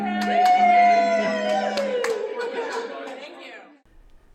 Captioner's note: applause